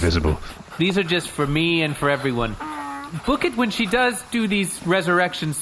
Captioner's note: scribbling